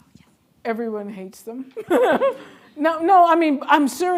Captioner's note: laughing